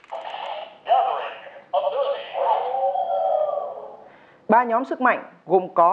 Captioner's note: wolf howl